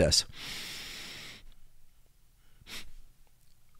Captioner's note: inhales deeply; inhales sharply; exhales